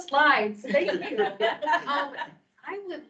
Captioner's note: members laughing